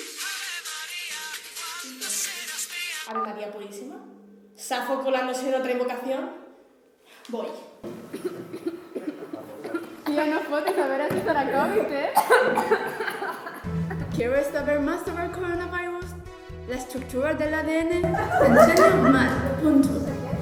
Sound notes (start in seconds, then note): 7.8 one of them coughs; 14.1 English accent